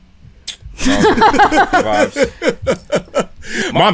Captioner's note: laughter